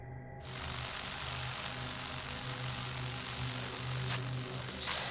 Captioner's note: static